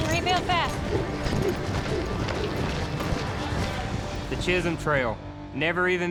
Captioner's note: hoofbeats